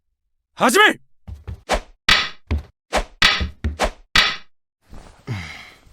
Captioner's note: sound of wooden swords clashing